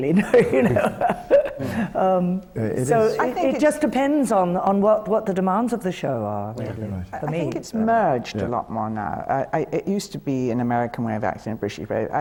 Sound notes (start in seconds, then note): 0.2 laughs